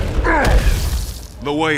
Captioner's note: grunts